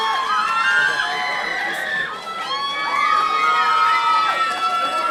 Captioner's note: audience cheering; audience applauding